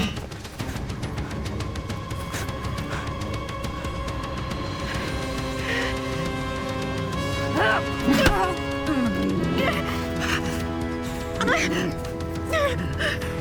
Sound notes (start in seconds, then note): 0.1 knife slings; 7.2 Rachel grunts; 7.8 arms thud; 9.9 Rachel breathes heavy